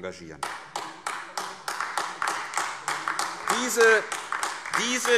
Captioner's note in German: Beifall AfD